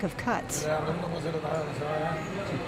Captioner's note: speaking spanish